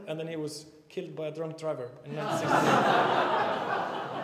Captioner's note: laughter